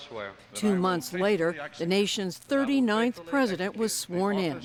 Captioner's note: voice-over